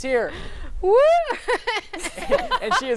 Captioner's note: laughs